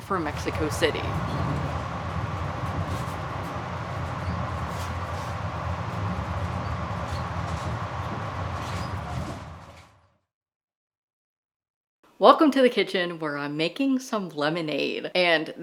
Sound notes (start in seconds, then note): 3.2 sound effect: Train arriving on track